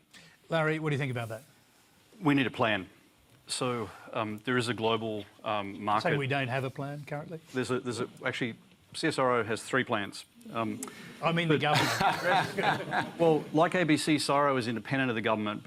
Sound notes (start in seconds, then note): 11.7 laughter